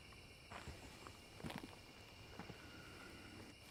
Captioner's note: footsteps thudding